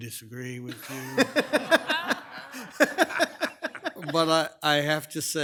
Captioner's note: group laughs